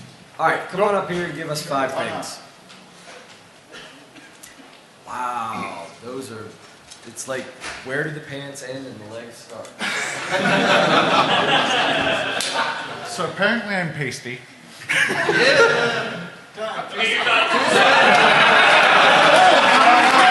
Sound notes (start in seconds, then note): 9.8 laugher; 13.3 applause